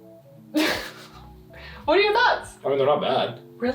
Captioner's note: chuckles